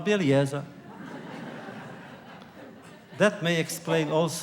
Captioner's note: laughter